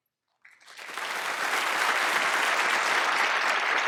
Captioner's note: applause